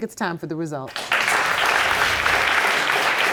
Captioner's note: audience applauding